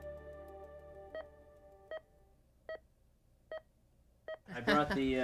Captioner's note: gentle music; monitor beeping